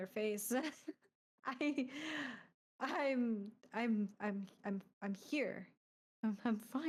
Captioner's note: chuckling